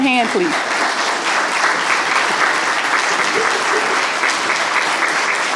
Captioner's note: audience applauding